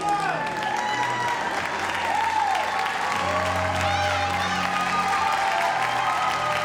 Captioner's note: audience cheers and applauds